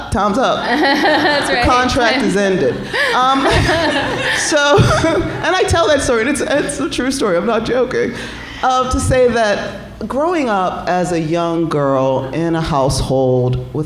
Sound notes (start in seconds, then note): 0.7 laughing; 2.6 laughter